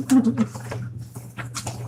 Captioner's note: laughing